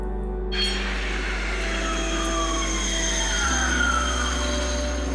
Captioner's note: train squeaking